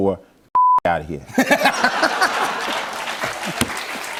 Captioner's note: laughter; applause